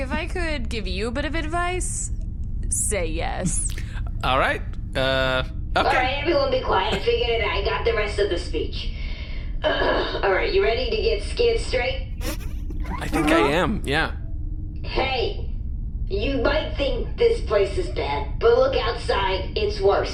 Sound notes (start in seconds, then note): 0.0 laughter; 9.0 clears throat; 12.2 laughing; 15.5 reciting uncertainly